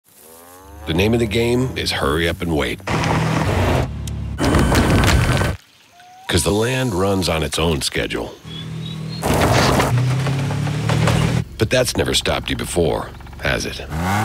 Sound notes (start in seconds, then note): 2.7 engine revs; 8.4 engine revs